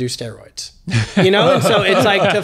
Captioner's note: doctors laughing